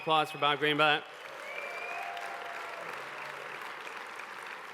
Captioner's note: applause